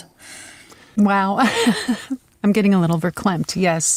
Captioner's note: laughs